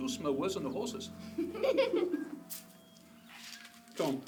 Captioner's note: giggling